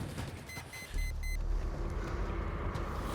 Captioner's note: GPS beeping